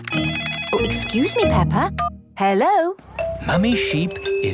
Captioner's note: phone ringing